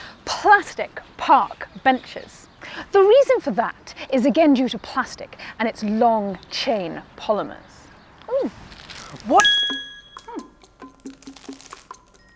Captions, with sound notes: Plastic park benches. The reason for that is again due to plastic and its long chain of polymers. - Oh! - What! [snaps] [ding]